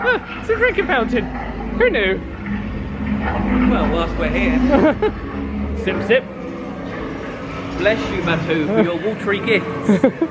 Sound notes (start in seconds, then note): 0.0 surprised noises; 4.6 laughs